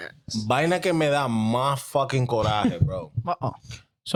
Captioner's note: speaking In Foreign Language